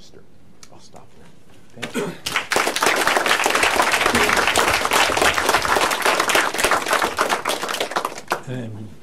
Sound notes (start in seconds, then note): 2.2 applause